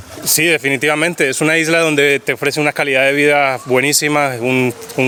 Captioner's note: speaking in foreign language